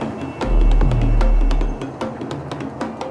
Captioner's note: distant traffic sound